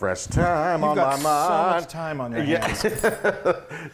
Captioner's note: singing; laughing